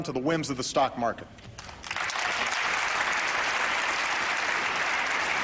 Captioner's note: applause